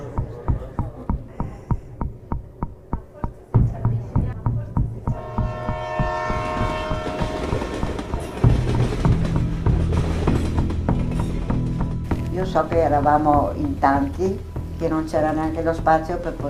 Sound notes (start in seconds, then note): 4.8 train rumbling; 5.1 train whistle trumpets; 12.1 speaking in foreign language